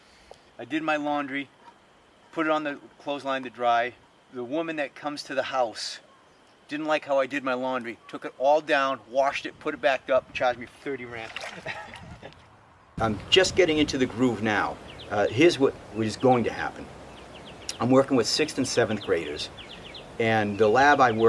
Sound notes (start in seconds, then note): 11.4 laughs